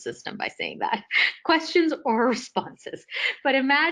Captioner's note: laughing